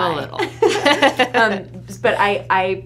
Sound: both laughs

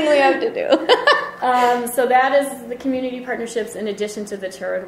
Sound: voiceover

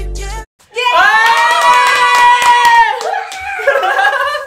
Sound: cheering

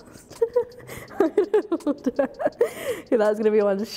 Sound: laughs

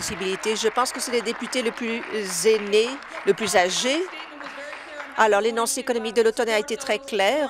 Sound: applause

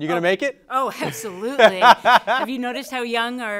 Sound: laughing

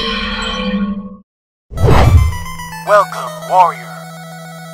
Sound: none

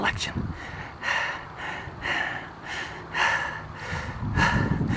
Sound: heavy breathing

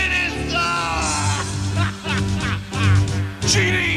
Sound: laughs

